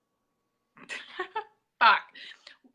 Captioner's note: chuckles